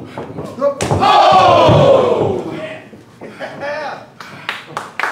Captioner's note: audience cheering